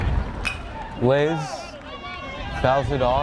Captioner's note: bat pings